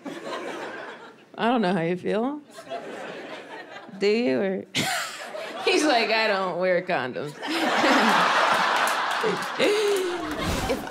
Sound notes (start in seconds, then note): 0.0 audience laughing; 4.3 laughs; 7.3 audience laughing